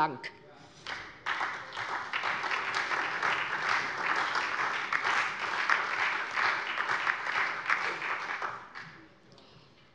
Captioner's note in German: Beifall SPD und vereinzelt DIE LINKE